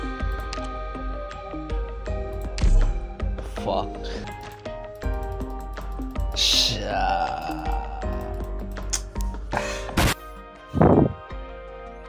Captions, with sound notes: Fu- Shi... eeeeaaaaaaaaaaaaaaaaa *Tsk* Agghhhhh.... *Breath.mp3*